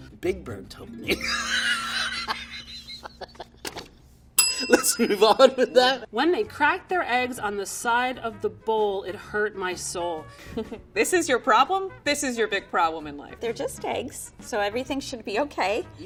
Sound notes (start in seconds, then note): 1.1 laughing; 4.4 bell rings